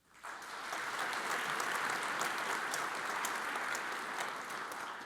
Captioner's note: audience applauds